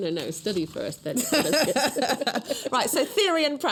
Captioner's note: laughter